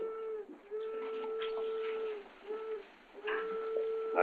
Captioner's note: train whistles